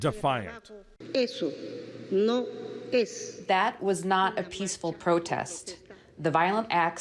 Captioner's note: through translator